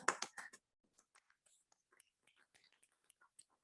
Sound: clapping

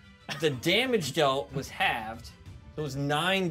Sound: speaker chuckles

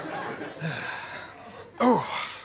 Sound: audience laughter; sighs

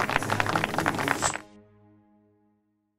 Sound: applause

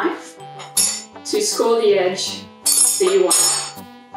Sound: knife clangs; knife clangs

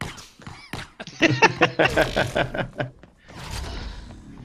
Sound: laughter

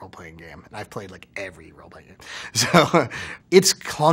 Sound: laughs

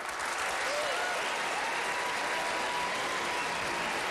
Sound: applause

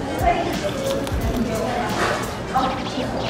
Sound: crispy sound

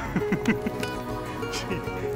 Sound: laughing

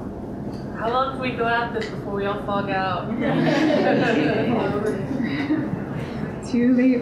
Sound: audience laughter

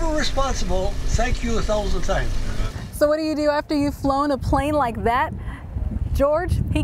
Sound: engine sounds

